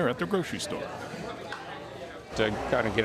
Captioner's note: volunteers chattering